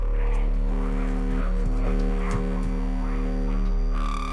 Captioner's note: rapid footsteps